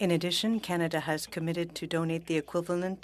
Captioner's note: speaking French